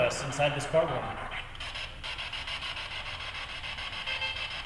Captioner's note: static buzzing